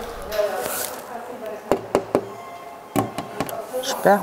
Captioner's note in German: Stimme im Hintergrund, Klopfen